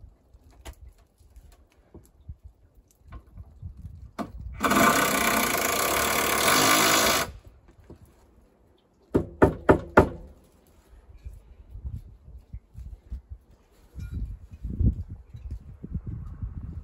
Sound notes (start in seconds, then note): 4.6 electric drill sound; 9.1 sound of a hammer hitting the wooden board